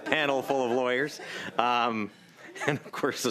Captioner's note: laughter